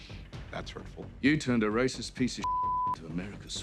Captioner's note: beeping